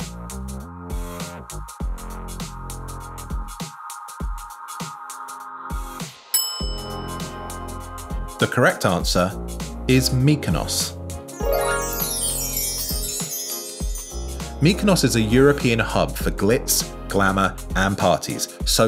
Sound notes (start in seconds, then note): 6.3 bell rings; 11.3 bright chimes